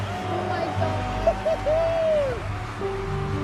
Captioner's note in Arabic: تشجيع متحمس